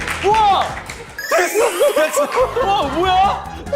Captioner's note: giggle